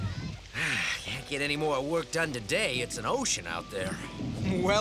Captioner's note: sighs